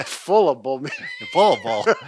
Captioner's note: laughs